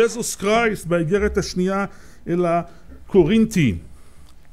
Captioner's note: אנגלית